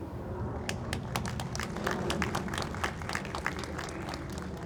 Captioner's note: audience applauds